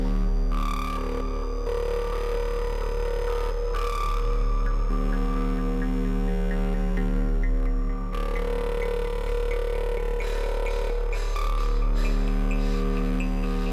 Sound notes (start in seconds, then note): 10.8 Abby pants